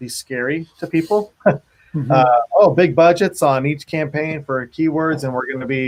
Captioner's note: laughs